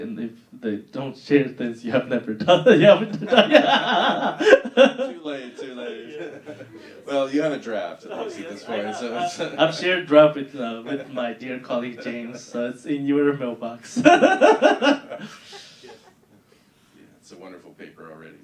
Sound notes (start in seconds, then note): 4.1 laughing; 13.9 laughing